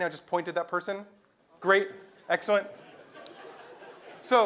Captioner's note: laugh